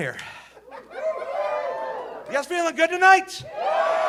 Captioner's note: audience cheering